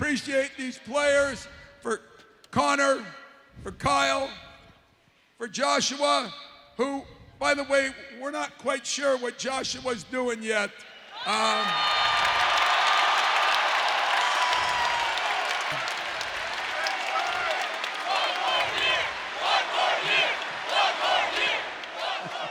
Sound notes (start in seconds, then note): 8.9 crowd cheers; 12.1 applause; 15.2 crowd chanting "one more year!"